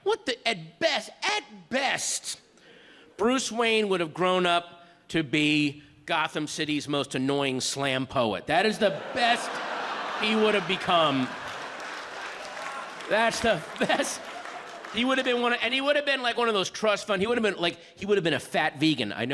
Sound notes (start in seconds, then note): 8.8 audience laughs; 11.5 audience applauds